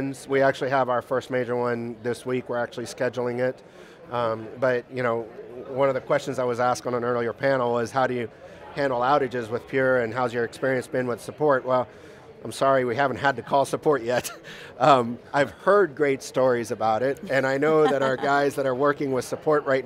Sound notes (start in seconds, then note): 17.6 laughs